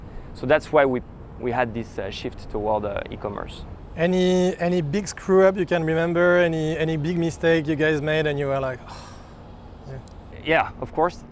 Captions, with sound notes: So that's why we had this shift toward e-commerce. Any big screw-up you can remember any any big mistake you guys made and you were like [sigh].